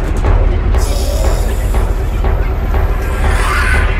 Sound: ragged breathing

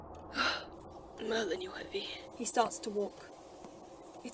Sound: James sighs

